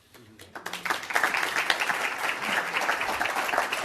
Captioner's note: audience applause